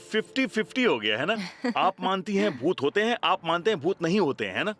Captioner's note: laughs